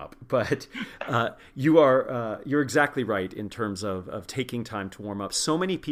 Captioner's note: laugh